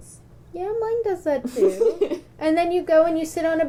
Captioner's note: laughter